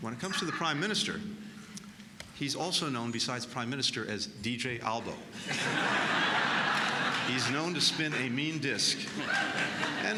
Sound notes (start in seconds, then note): 5.4 laughter